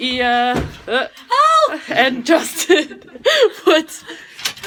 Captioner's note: laughs